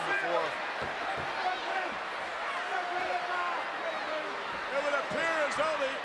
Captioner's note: applause